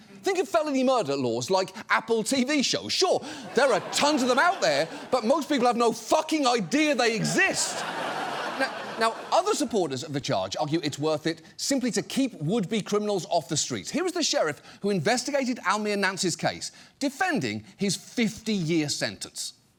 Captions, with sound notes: Think of felony murder laws like Apple TV shows. Sure, there are tons of them out there, but most people have no fucking idea they exist. -(AUDIENCE LAUGHS) -Now, other supporters of the charge argue it's worth it simply to keep would-be criminals off the streets. Here is the sheriff who investigated Almeer Nance’s case, defending his 50-year sentence.